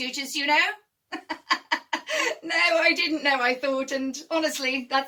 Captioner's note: laughs